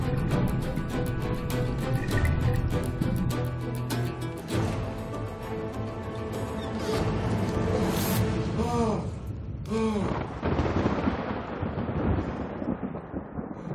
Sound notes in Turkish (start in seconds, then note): 8.6 Nefes sesleri; 9.9 Gök gürültüsü efekti